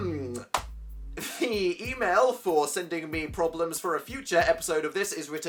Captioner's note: laughs